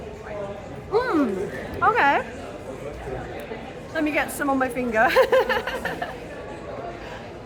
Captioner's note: laughing